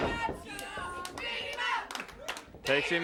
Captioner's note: audience chants